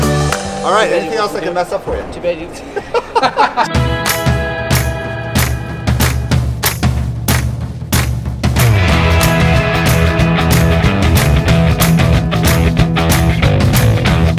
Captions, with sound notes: Alright, anything else I can mess-up for you? (LAUGHS) - (LAUGHS) (UPBEAT MUSIC)